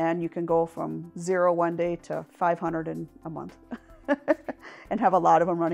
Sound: laughs

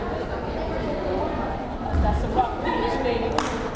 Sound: crowd chattering

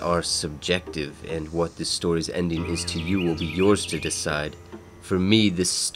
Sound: wren singing

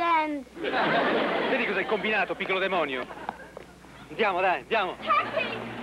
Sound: scolds in Italian

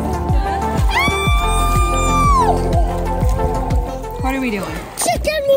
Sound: excitedly screaming

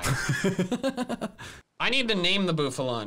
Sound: laughing

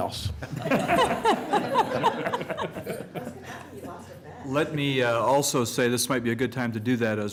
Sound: laughter

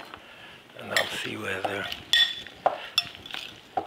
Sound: spoon clinking

